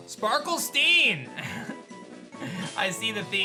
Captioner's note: chuckles